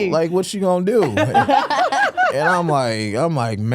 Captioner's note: hosts laughing